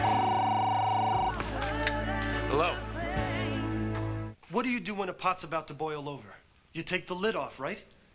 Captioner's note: telephone rings